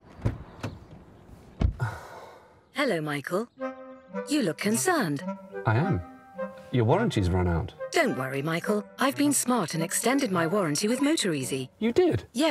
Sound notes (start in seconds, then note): 0.1 car door closing; 0.1 car door opening; 1.7 sigh